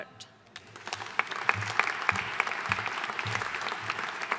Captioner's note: audience applauding